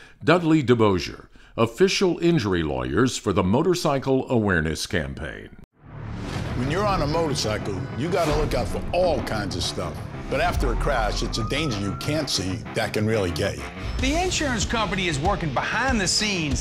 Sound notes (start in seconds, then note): 11.4 police sirens alarming